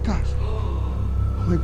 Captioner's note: gasps